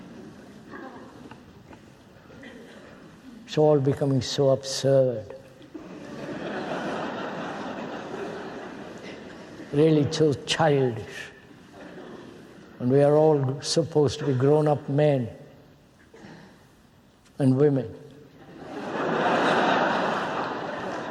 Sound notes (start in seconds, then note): 5.7 laughter